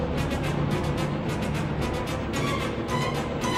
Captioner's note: none